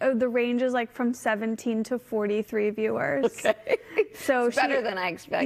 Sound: laughter

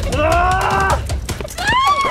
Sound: record scratching; dad grunts; mom screams; record scratching

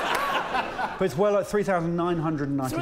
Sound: laughter

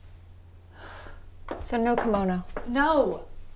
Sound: Abigail sighing

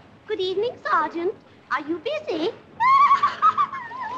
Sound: giggles

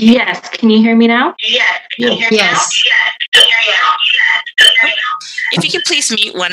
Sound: voice echoing

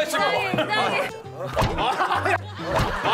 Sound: slapping

